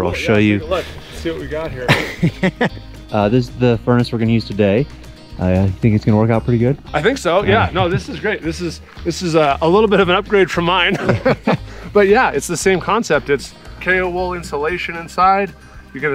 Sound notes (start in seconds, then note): 1.8 guy chuckles; 10.9 both chuckling